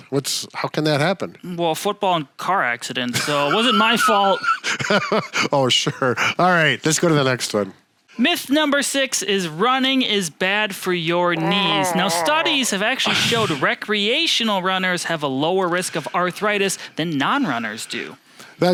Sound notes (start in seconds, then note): 3.1 laughs; 11.3 growling